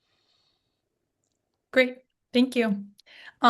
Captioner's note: silence